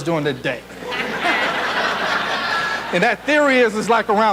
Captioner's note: audience laughs